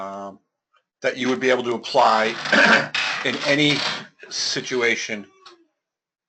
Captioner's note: cough